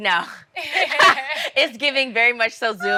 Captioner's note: moms laughs